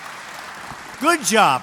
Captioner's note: applause